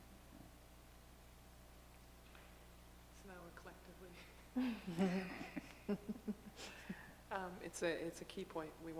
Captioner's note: quiet laughter